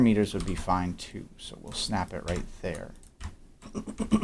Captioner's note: clears throat